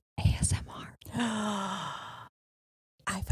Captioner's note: gasping